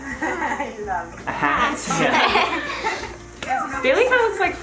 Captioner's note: laughs